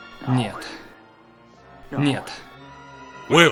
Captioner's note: whispering